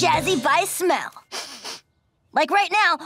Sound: sniffing

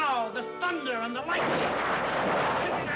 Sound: thunder and lightning

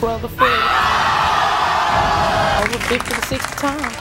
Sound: audience screaming

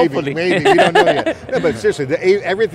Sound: laughing

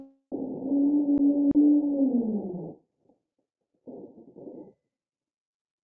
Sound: low pitched whoop and groan

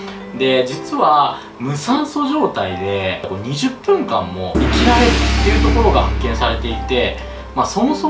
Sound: impact

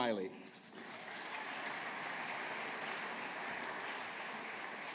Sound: audience applauding

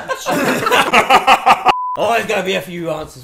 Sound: group laughing

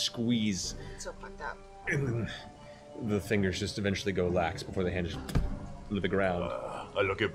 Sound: impact

